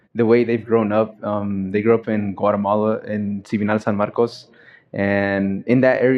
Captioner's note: foreign words